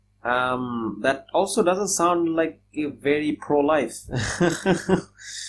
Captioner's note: laughs